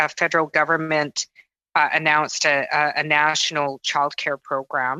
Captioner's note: speaking French